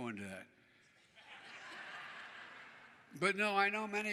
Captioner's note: laughter